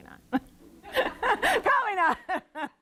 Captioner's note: laughing